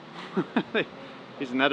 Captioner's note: chuckles